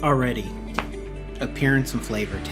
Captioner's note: cracks beer